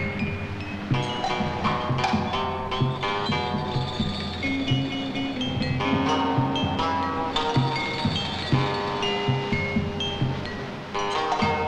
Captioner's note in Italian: campana